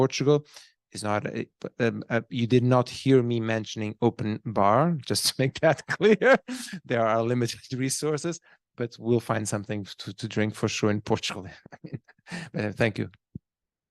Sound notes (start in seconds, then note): 5.8 laughing; 11.6 laughs